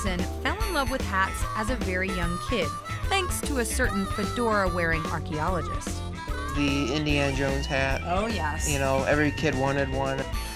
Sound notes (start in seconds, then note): none